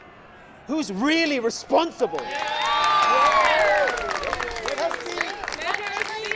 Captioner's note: crowd